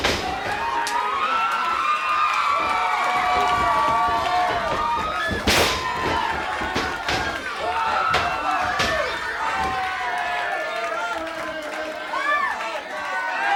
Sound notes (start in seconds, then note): 0.1 audience cheering; 0.1 body thuds